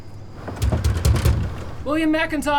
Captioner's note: knocking on door